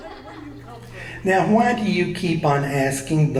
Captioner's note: voiceover